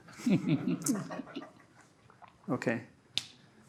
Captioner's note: laughter